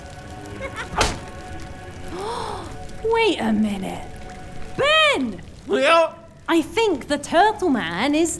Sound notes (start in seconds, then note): 2.1 Lucy gasps